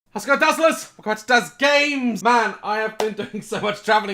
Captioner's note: clap